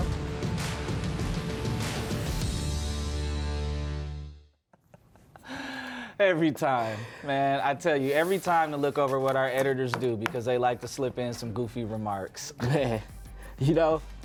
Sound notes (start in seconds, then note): 4.6 laughing; 12.6 laughing